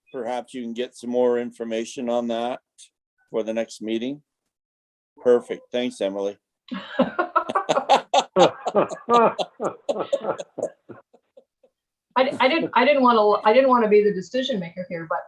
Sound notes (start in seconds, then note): 6.7 all laughing